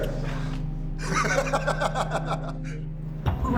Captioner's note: laughing